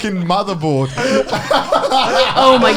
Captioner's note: laughs